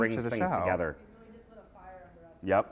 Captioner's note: voiceover